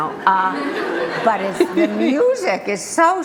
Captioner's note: group laughter